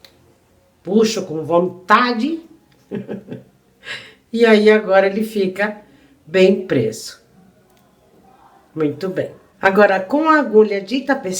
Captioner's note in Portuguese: risadas